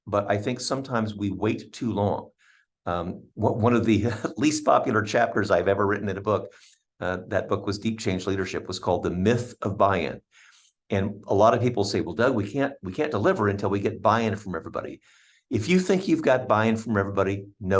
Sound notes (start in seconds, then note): 3.9 chuckling